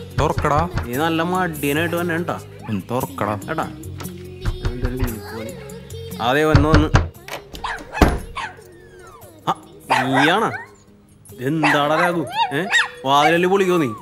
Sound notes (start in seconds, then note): 2.6 dog barking; 6.5 banging on the door; 6.5 knocking; 7.5 door opening... Barking; 9.8 barking and squealing; 9.8 barking